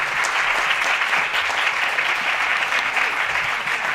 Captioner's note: applause